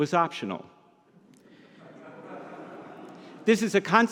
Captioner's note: audience laughs